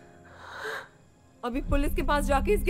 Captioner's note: Sighs